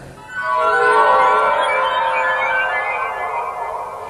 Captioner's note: spooky twilight zone noise